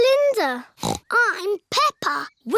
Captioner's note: snorts